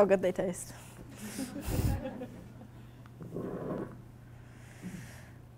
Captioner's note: audience laughing